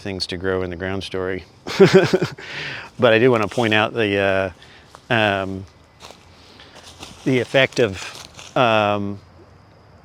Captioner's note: chuckle